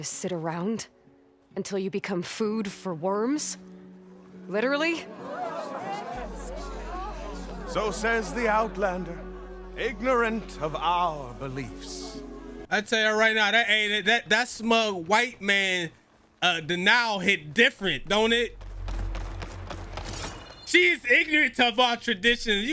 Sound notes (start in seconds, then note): 5.5 people conversing